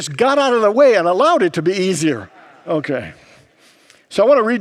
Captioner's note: congregants murmur